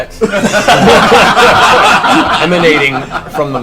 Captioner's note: all laugh